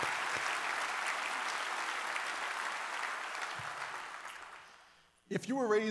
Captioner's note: applause